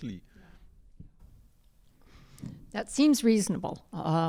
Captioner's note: pat